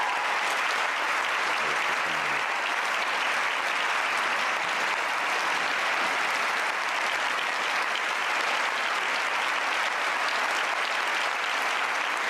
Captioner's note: cheering and Applause